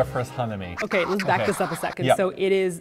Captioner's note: funky record scratching